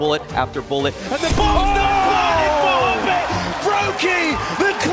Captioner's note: commentators clamoring